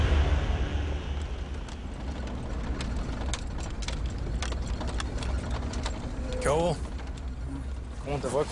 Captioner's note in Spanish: Sonido del carro